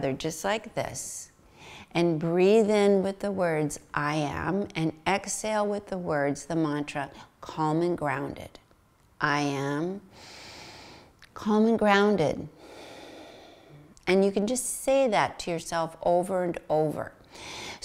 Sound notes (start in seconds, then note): 9.7 inhales; 12.6 exhales